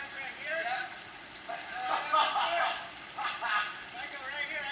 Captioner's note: laughing